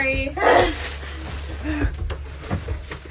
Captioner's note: exasperated noises